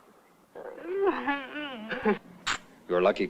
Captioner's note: kiss